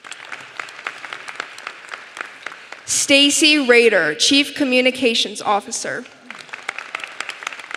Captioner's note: applause